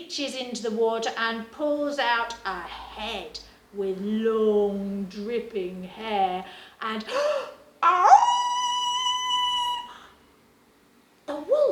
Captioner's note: howls